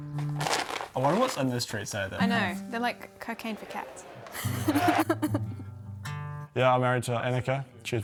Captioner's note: chuckles